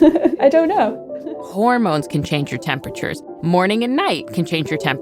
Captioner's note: laughs